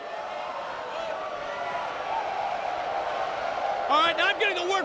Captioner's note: crowd cheering